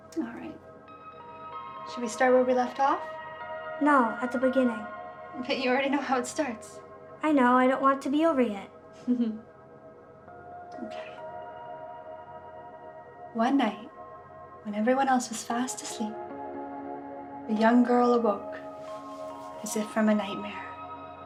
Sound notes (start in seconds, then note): 9.0 chuckles; 21.0 soft melodic music